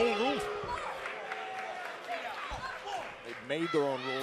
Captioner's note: crowd cheering